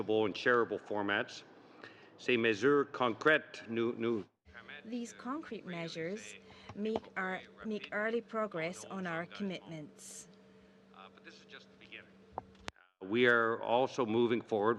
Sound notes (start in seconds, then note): 8.5 speaking French